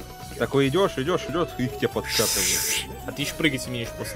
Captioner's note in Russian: звуки завихрения